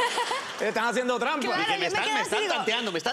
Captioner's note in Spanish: risas